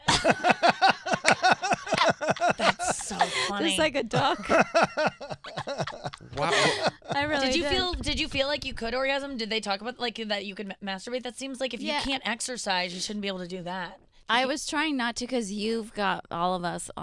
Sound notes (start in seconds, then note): 0.0 laughing; 1.2 clapping; 4.1 laughing